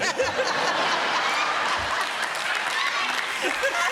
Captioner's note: laughter